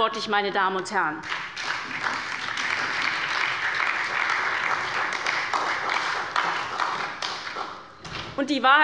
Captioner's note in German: Beifall bei der SPD